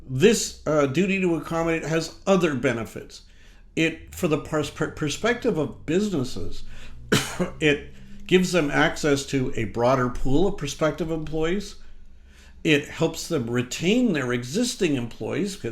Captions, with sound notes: This duty to accommodate has other benefits. For the perspective of businesses, (coughs) it gives them access to a broader pool of prospective employees. It helps them retain their existing employees